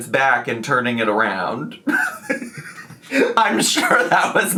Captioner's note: laughing